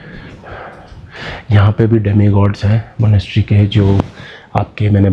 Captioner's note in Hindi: गहरी सांस लेने की आवाज़